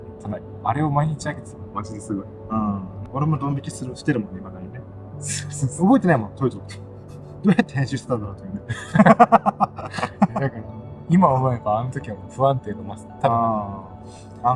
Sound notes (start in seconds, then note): 8.6 laughs